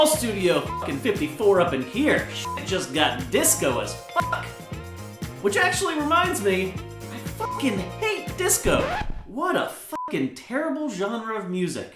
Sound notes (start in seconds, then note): 8.4 record scratch